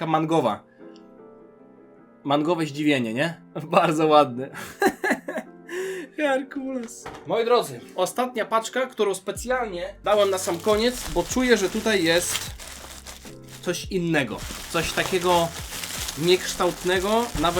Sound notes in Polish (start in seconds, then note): 4.5 śmiech; 5.7 wciągnięcie powietrza